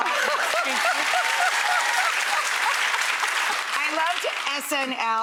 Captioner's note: applause and cheers